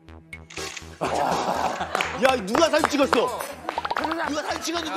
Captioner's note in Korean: 고요한 실내 울려퍼진 찰칵 소리